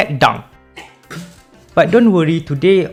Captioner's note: pfffff